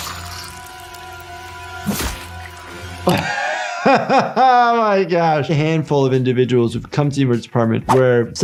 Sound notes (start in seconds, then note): 3.0 laughs